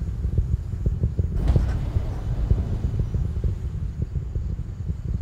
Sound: motors fire

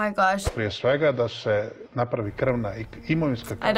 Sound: speaking foreign language

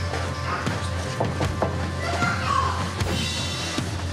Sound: knocking

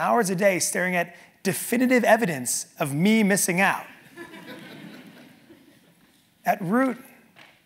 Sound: laugh

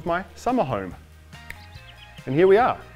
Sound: clicks fingers

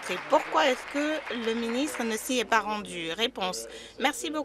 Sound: applause

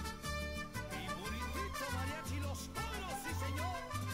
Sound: trumpet music; speaking in Spanish

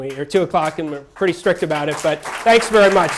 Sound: applause

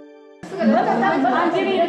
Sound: music chimes; people chatting

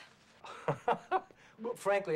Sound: laughing

